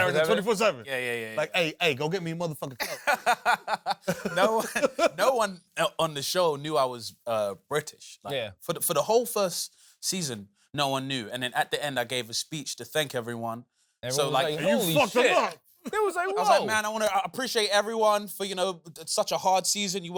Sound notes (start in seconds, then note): 1.5 south central accent; 2.8 laughs; 16.0 chuckles